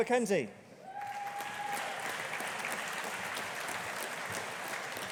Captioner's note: audience applauding